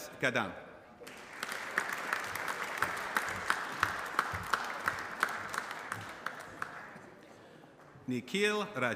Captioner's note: applause